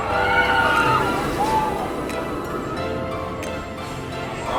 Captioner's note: riders screaming